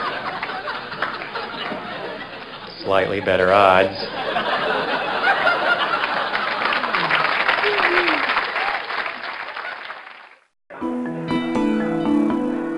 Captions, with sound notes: [ Laughter ] Slightly better odds. [ Laughter ] [ Applause ] !!musiC@!!!musiC@! -The San Francisco International Stand-Up Comedy Competition